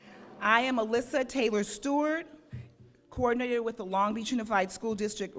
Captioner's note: none